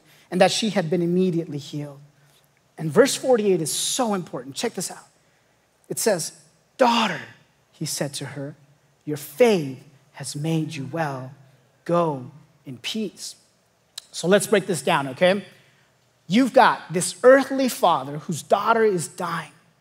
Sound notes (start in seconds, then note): none